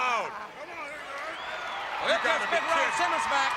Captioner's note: crowd chatter